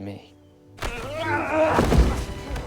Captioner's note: grunting